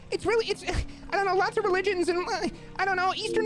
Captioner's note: huffs